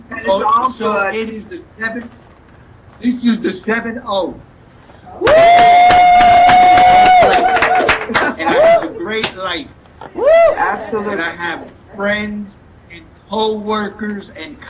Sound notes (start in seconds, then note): 0.0 laughs; 5.2 participants applauding